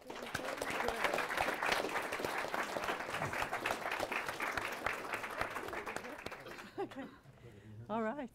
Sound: applause

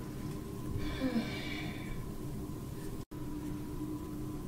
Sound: woman sighing

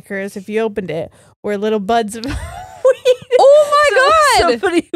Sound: giggles

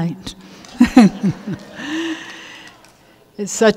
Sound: everyone laughs

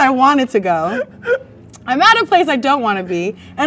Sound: man laughs

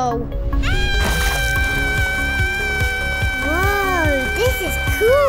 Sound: yelling

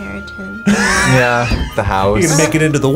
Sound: React laughs

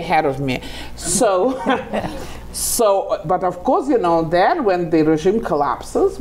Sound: laughing

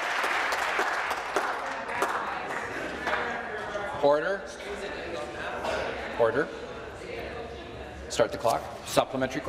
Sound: applause

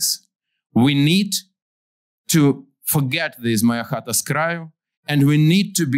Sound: non-english

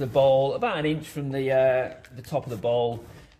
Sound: soil shuffling

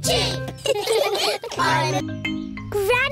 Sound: all laughing

